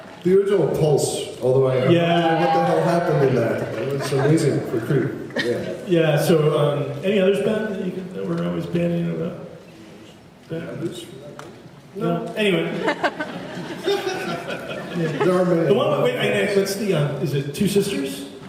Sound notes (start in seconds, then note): 12.7 laughs